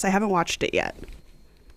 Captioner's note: soundbite of archived recording